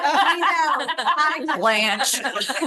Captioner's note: laughter